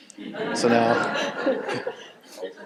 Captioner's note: audience laughing